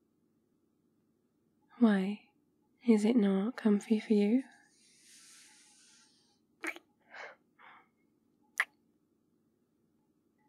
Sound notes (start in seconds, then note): 6.6 kiss